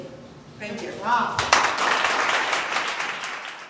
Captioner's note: audience applause